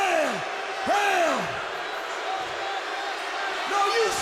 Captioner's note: crowd boos